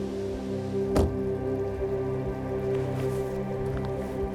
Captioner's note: car door bangs